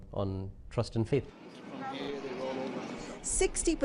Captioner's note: crowd noise